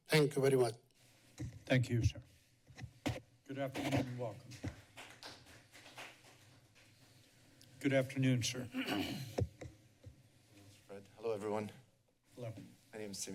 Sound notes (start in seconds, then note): 4.4 applause; 8.7 clears throat